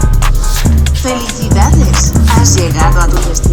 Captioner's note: in Spanish